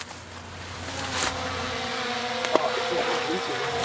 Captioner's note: sonar ball whirs and plops